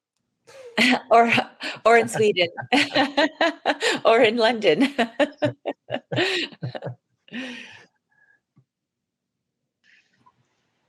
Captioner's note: laughs